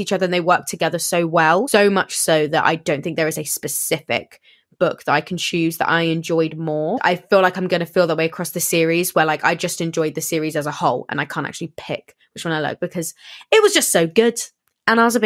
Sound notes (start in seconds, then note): none